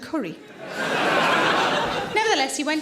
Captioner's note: audience laughing